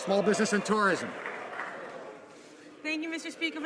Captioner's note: some Applause